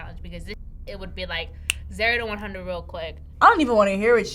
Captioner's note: snaps